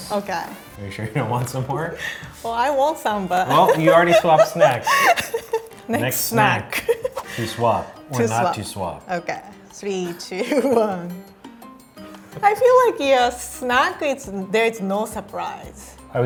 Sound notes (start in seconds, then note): 3.5 laughing; 11.3 upbeat music